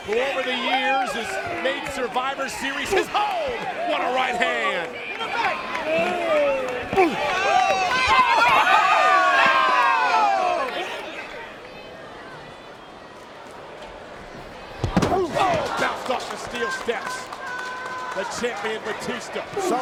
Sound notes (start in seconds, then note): 7.0 Mr. Kennedy groans; 7.0 fist thuds